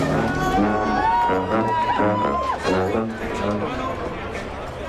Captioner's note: people cheering